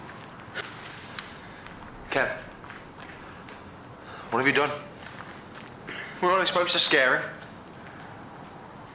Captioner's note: stutters